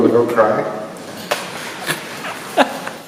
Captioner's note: laughing